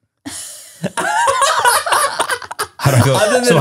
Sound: everyone laughs

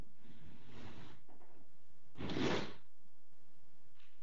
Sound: scraping

